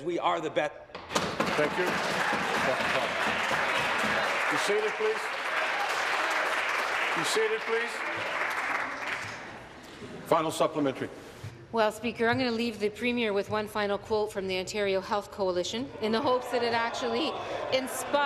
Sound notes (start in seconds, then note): 6.8 applause